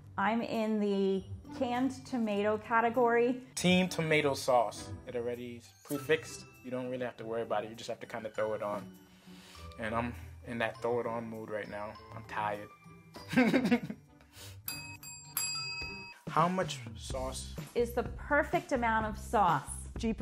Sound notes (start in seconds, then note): 13.3 laughs; 14.6 bells ring